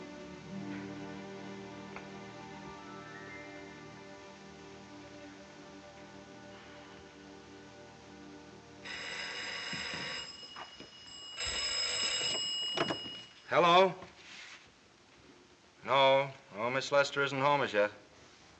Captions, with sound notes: [telephone ringing] Hello? No. No, Ms. Lester isn't home as yet.